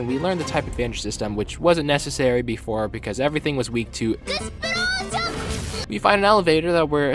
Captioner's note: explosions